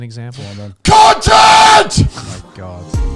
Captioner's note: yells; chill music plays